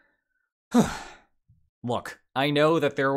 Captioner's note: sighs